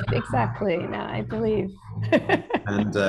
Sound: laughing

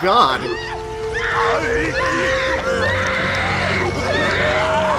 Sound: screaming

